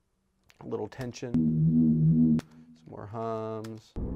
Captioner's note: electric hum plays